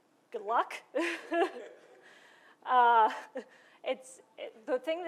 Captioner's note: laughter